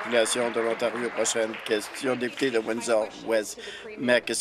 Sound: applause

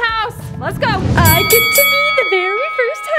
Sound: bell dinging

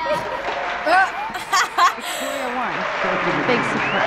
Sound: laughs

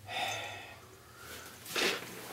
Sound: sighs

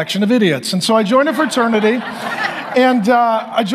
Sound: audience laughs

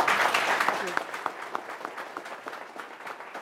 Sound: applause

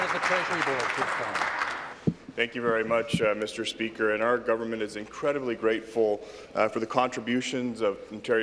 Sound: applause

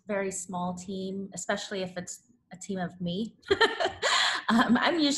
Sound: laughs

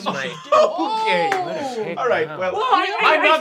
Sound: group nervously chatting

